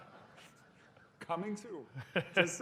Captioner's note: laughter